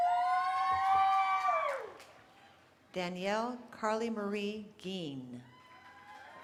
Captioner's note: cheering